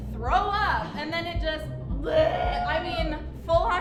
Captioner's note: grunts